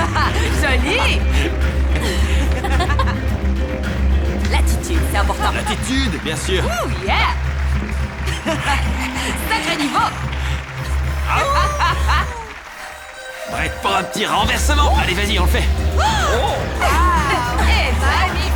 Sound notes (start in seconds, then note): 7.1 applause; 11.1 Clive howling; 16.5 audience cheers